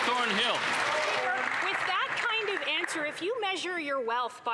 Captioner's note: applause